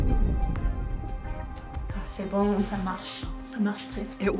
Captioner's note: both speaking French